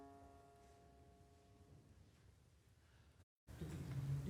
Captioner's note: silence